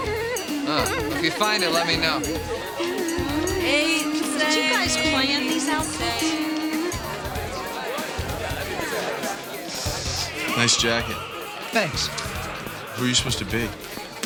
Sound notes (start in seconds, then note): 3.3 chanting